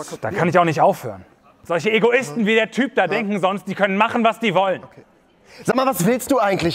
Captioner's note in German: laut